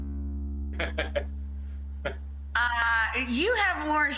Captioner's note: laughing